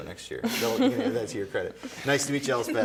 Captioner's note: laughs